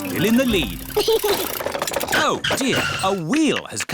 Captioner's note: chuckles